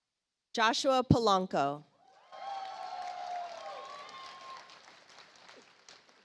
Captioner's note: audience applauds